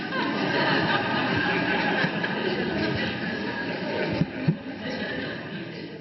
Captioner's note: audience laughs; Eckhart laughs